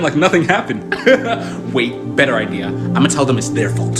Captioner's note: laughs